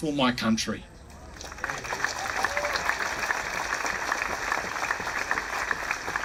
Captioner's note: applauding